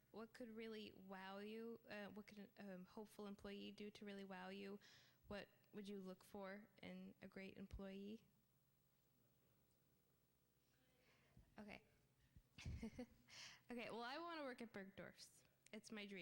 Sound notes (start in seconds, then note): 8.3 laughter